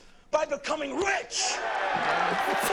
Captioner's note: people cheer; laugh